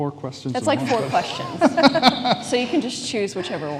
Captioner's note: everyone laughs